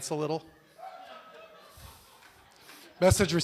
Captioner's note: laughter